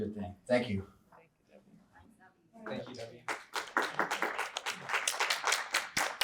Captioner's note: audience applause